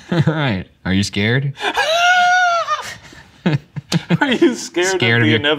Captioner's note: laughing